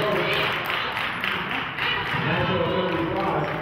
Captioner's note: clapping